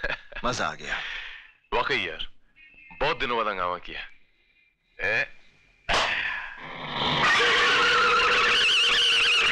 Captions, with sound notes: That was fun ! - It sure was! We've enjoyed this after ages. (Tires Screeching)